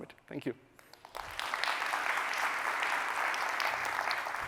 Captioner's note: applause